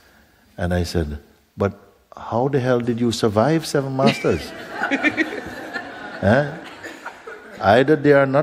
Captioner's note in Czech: smích